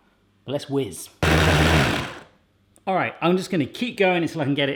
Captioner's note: processor whizzing